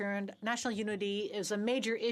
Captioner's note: speaking French